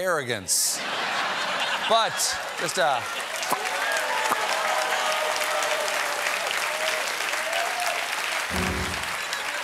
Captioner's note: laughter; cheers and applause